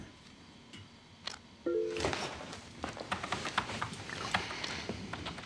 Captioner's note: keyboard clacking